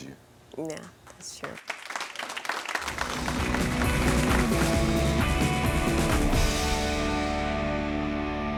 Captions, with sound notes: - Yeah, that's true. (audience applauds) (upbeat music)